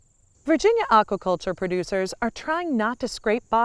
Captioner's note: woman Speaking